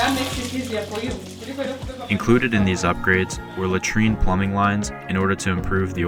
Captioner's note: Swahili